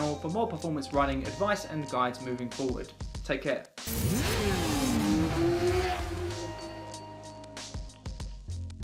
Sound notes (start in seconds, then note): 3.8 bike engine roaring; 6.8 upbeat music